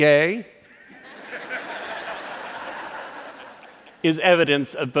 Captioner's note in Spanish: Risas